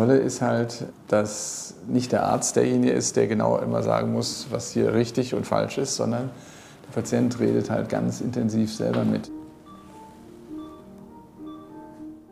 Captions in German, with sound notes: Das Tolle ist, dass nicht der Arzt derjenige ist, der immer sagen muss, was hier richtig und falsch ist, sondern der Patient redet ganz intensiv selber mit. (Leises Piepen)